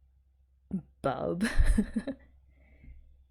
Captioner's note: laughs